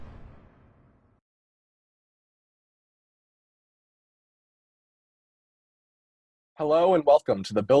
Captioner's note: swish